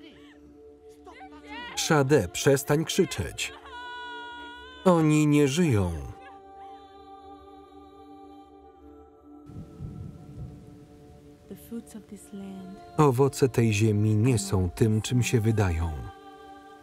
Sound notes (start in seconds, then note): 7.9 ethereal music; 9.6 rain falling